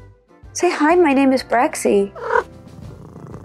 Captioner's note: purring noises